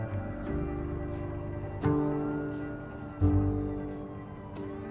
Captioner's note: sirens wailing distantly; siren wailing gets louder; sirens wailing loudly